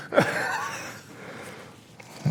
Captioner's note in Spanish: risas